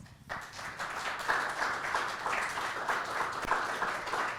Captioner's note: audience clapping